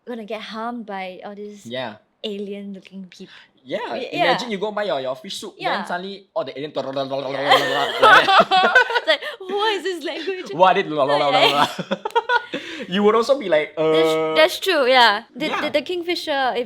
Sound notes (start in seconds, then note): 7.4 both laughing